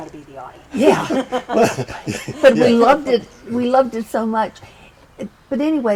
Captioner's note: laughter